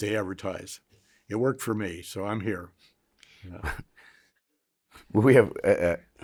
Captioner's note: chuckles